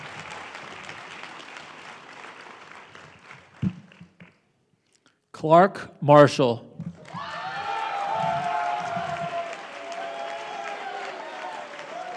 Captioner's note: applause